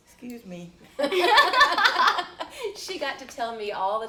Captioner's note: laughing